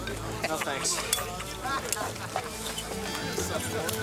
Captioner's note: man chuckling